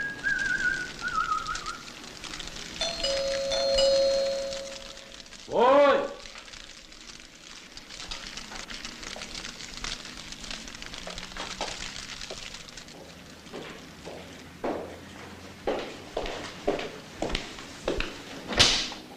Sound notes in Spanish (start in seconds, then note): 2.8 Timbre suena